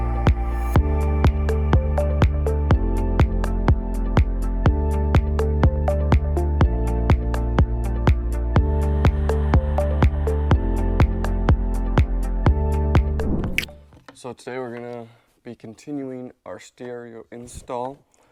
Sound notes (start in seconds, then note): 13.1 screen whooshing